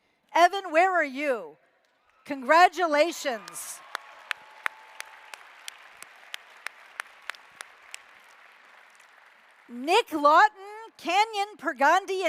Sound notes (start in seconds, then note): 3.0 applause